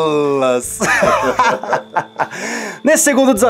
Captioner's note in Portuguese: Risadas